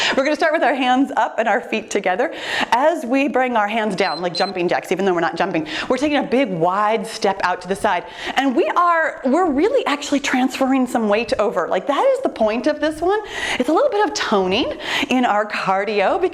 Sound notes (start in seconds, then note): 4.0 timer beeps